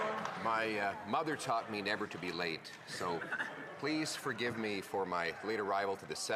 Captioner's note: some Applause